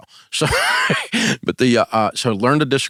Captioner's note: laughs